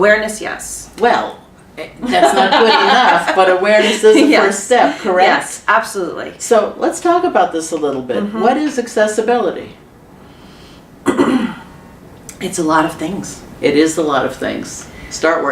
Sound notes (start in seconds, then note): 5.3 laughter; 11.0 clears throat